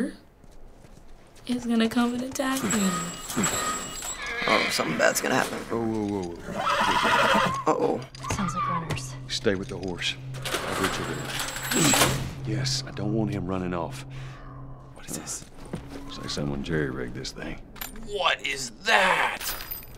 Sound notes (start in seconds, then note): 2.4 gate creaks; 2.5 horse whinnies; 6.4 horse brays nervously; 8.1 distant shrieking; 14.8 whispering; 19.4 objects rattle